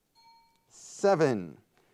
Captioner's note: timer bell dings